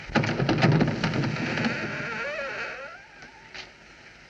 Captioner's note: hinges Creak